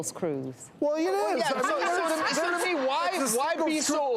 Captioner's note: laughs